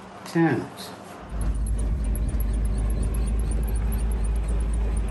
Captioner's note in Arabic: هدير محرك السيارة